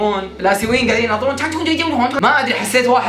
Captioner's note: mimics Chinese